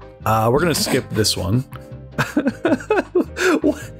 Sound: laughter

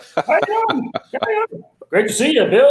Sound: laughing; squawking

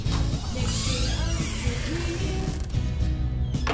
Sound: door creaking

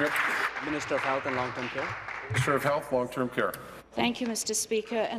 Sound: applause

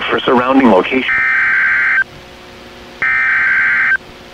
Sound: SAME header tones

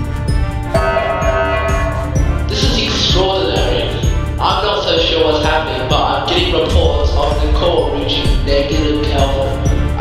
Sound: announcement Chime

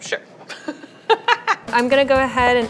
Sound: laughing

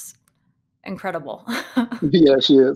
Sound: laughing

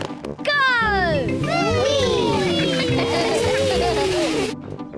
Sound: giggling

